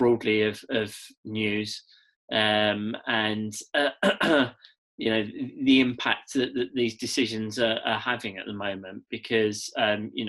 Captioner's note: cough